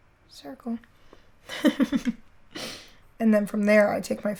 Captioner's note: laughs